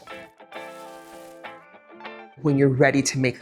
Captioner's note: crinkling